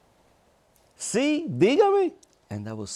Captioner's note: speaks Spanish